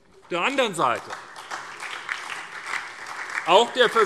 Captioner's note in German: Beifall SPD und DIE LINKE